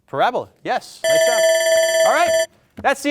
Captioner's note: buzzer ringing